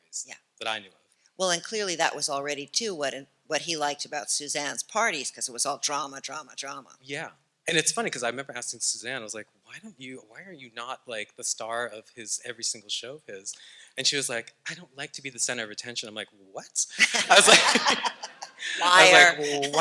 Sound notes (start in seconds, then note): 16.9 laughing; 17.0 audience laughter